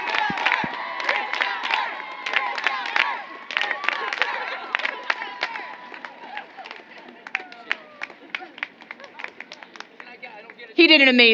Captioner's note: applause